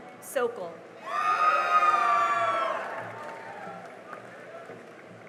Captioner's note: cheering and applause